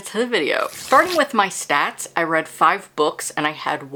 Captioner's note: paper rip